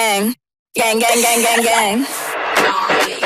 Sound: haha

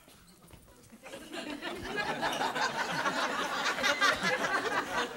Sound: audience laughs

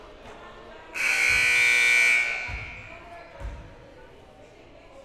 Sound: loud buzzer blaring

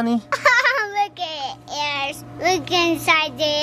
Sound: laughter

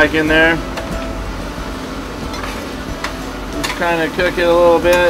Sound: frying sounds

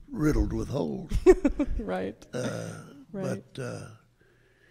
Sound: chuckles

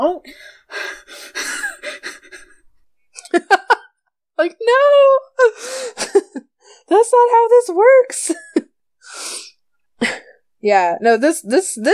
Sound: laughs

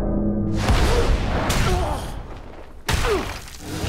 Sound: grunting

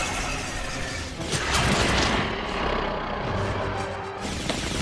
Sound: growling

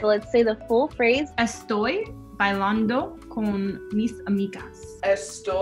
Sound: speaking Spanish

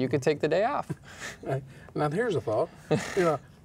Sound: laughs

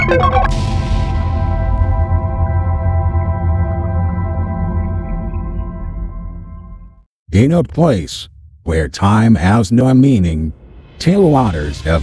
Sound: voiceover

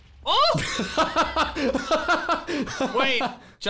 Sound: laughing

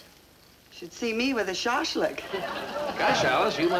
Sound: audience laughing

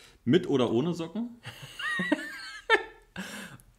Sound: laughs

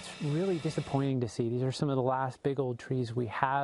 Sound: chainsaw noise

